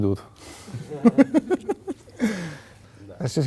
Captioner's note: laugh